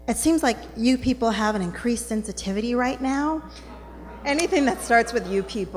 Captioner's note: groaning from Audience